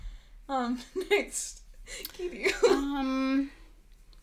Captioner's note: laughing